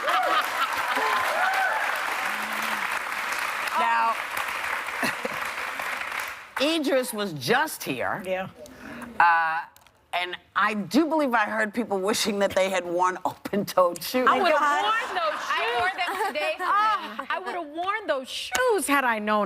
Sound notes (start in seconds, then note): 3.2 applause